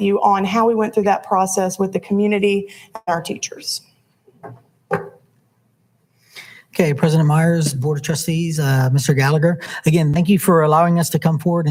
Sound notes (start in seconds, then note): 4.9 podium mic clunks softly